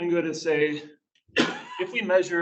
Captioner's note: coughs